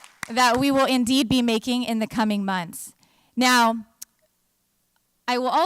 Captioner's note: applause